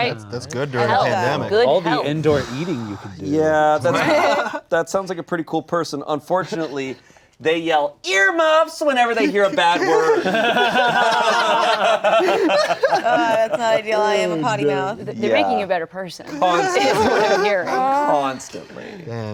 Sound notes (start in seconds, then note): 9.3 everyone laughing